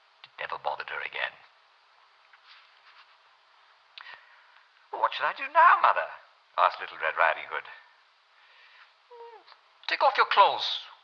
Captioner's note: German accent